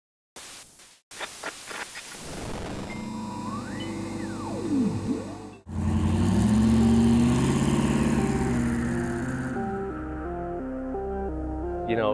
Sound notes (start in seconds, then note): 0.4 outer space static noise; 6.1 motor revving; 9.5 electronic music